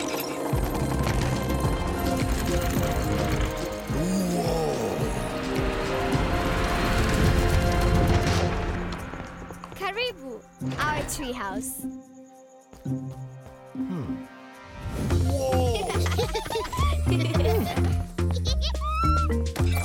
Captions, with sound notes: - Whoa! - Karibu! Our treehouse. - Hmm... Whoa! (laughing) (upbeat music)